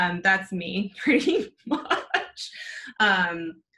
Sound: laughs

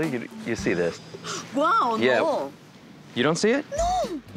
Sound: gasps

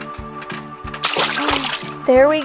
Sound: splashes

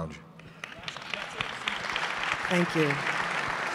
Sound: applause

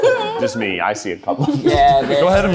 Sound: laughing

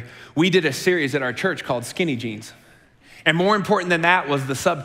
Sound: none

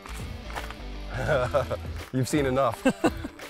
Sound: laughs

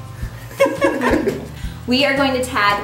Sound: laughing

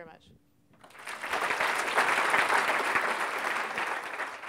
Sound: applause

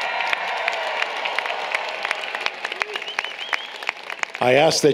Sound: applause, Cheering

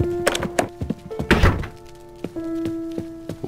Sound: door closes

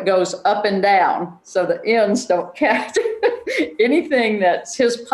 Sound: chuckles

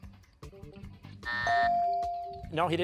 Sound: buzzer; bell dings

